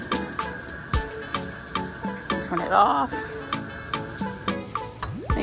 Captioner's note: water bubbling